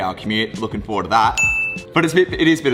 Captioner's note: bell rings